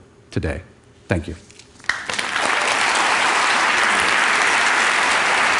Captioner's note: Applause; 掌聲